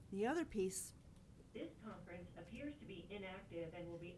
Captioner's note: electronic Voice